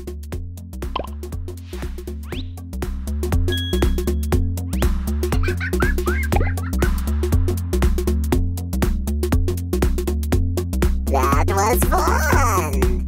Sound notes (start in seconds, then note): 5.3 laughter